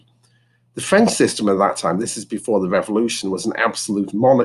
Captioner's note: French